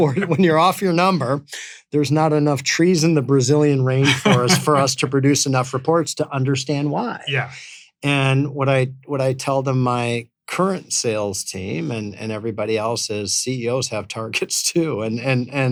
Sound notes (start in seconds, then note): 0.0 laughing; 4.0 laughs; 13.5 laughing